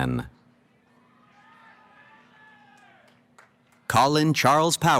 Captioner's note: cheering